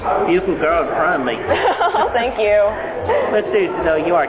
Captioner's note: laughter